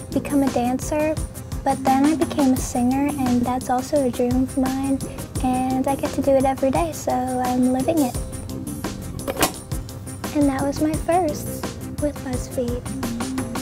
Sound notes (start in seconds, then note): 9.2 sharp click; 13.4 upbeat music